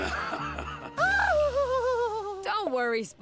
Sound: laughing; shrieking

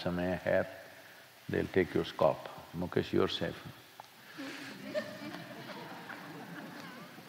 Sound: few Laugh; Sadhguru laughs

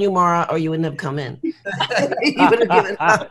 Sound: laughs

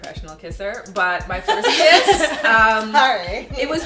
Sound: laughter

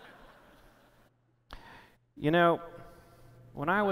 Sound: laughter

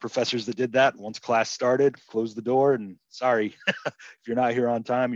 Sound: laughs

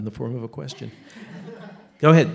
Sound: laughter

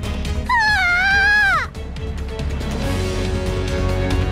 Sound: screams

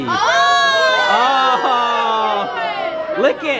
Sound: gasping

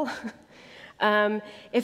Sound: laughter

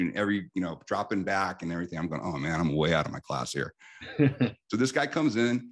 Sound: laughs

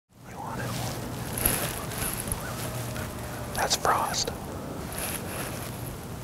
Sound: whispering

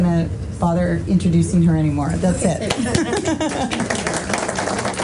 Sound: claps

